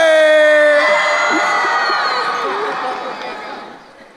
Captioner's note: crowd cheering